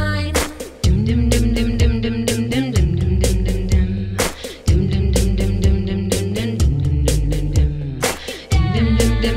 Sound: humming

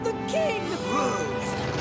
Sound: gasping

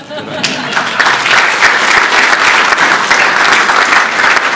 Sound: applause

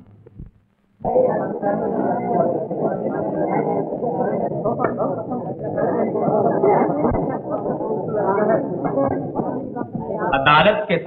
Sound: indistinct chatter

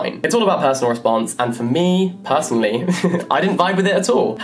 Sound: chuckles

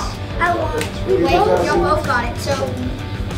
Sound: clap

